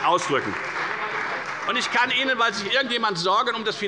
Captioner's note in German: Beifall bei der FDP und bei Abgeordneten der CDU